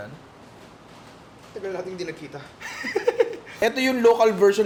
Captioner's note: laughs